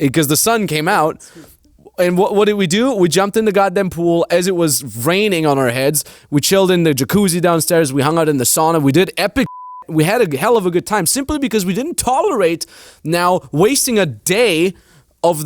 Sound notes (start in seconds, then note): 9.4 beep